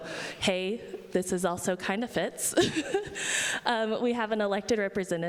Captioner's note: laughs